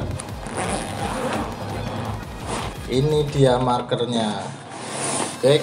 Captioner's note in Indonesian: suara resleting